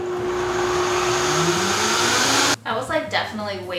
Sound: blender whirring

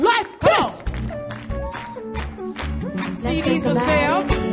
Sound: audience claps

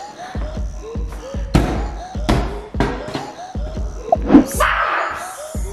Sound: giant cube hits floor

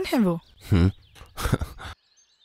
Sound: chuckles

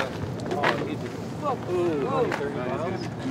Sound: rocks crunching

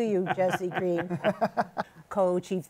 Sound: laughter

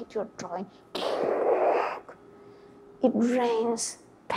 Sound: creates long, guttural vocalization

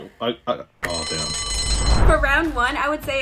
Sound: alarm rings

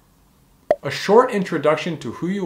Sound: bubble popping

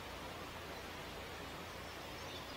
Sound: bird song

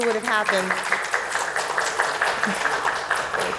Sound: applause

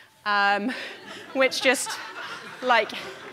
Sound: audience laughing

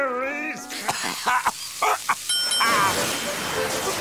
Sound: coughing, dinging

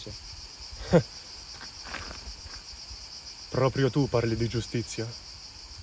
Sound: snorts

